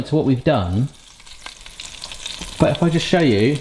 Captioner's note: fryer sizzling